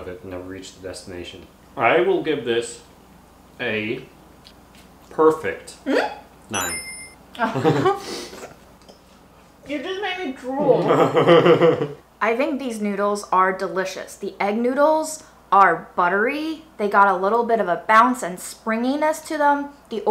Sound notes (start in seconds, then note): 7.6 laughs